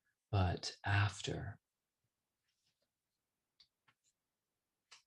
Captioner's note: none